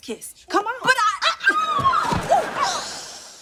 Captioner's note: screams